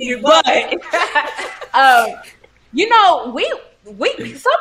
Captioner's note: both chuckling